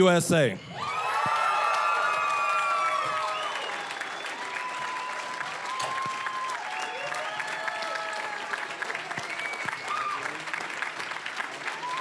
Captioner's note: cheering, applause